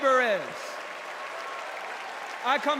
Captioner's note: cheers and applause